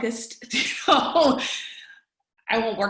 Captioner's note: laughs